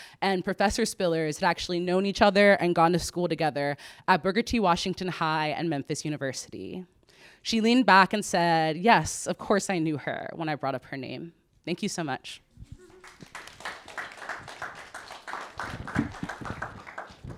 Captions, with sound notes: and Professor Spillers had actually known each other and gone to school together at Booker T. Washington High and Memphis University. She leaned back and said, "Yes, of course I knew her" when I brought up her name. Thank you so much. (audience clapping)